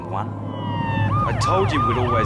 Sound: sirens wailing

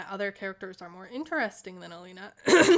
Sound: cough

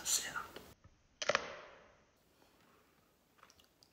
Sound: crunch

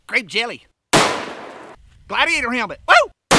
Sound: gun fires; gun fires

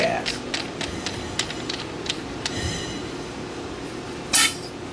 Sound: metal clanking

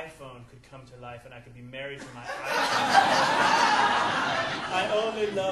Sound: audience laughing

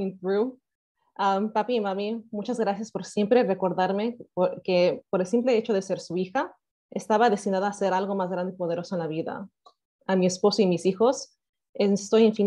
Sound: speaking spanish language

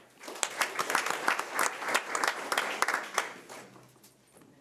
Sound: audience applauding

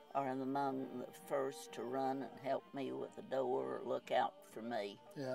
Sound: none

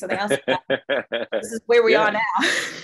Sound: laughing

